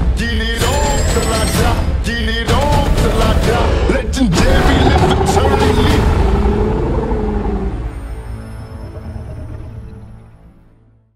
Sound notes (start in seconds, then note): 0.0 intense hip hop music; 4.5 roaring